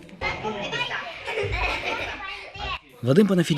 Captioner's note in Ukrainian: Діти граються. Лунає сміх